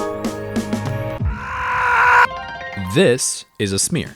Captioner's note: distant screaming growing closer